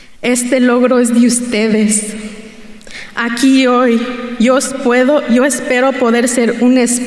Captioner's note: continues speaking in Spanish